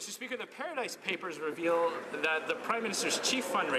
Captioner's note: some Applause